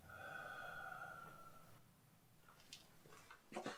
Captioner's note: dad sighs